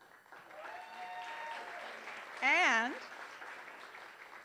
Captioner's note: applause